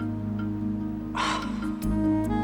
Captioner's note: sighs